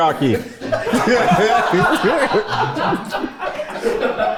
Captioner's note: everyone laughs